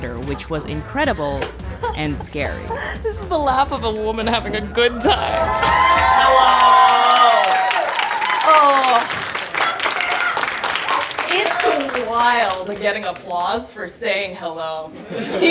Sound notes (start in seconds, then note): 3.1 laughs; 5.8 audience cheering and applauding; 7.8 audience applauding